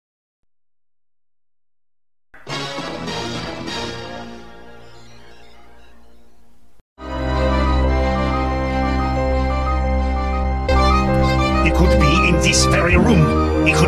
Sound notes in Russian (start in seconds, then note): none